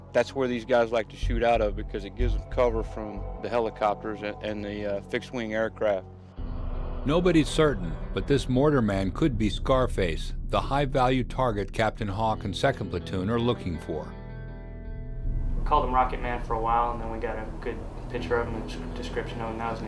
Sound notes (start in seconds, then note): 7.2 voiceover